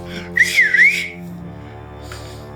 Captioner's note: Siegmund whistling; ominous music